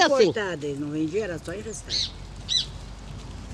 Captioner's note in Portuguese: pássaros cantam ao fundo